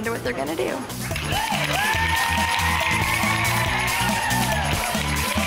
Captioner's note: group cheering and clapping